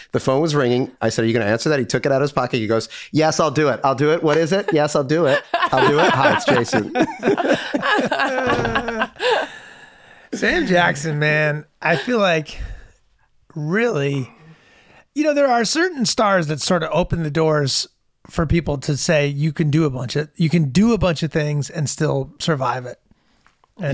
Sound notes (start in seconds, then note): 7.6 Charlie and Megan laughing